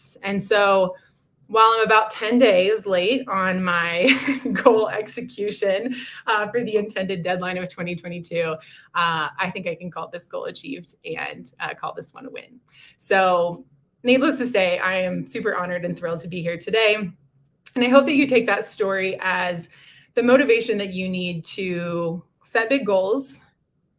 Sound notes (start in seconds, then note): 4.0 laughter